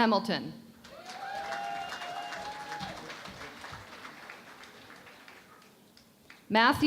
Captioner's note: cheering and Applause